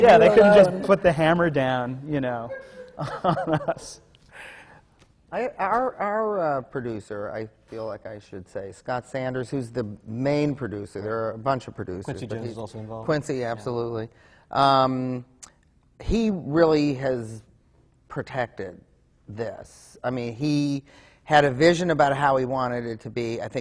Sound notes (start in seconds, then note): 4.8 laughs